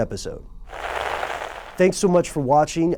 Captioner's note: crackling